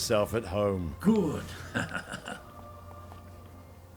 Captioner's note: chuckles